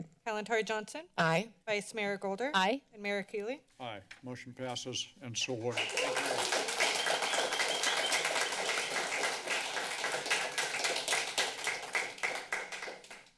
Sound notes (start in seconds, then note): 5.4 applause